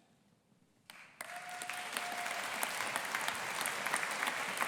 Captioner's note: audience applauding